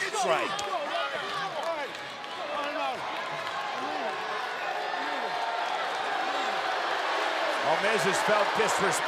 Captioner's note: applause